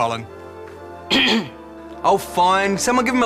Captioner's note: clears throat